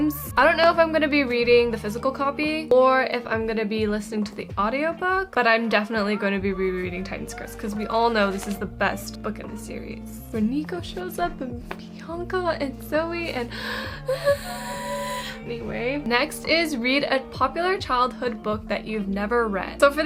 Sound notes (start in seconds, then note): 14.2 screams